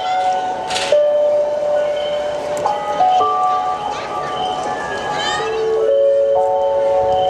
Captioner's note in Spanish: Sonidos de la calle